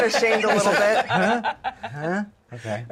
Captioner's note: laughter